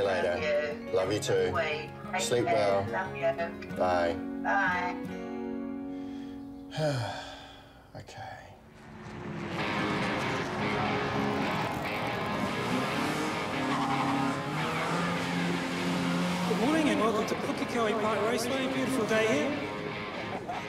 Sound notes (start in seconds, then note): 6.5 sighs; 9.0 rock music; 12.3 car revs, tyres skid